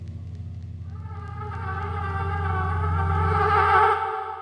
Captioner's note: loud hum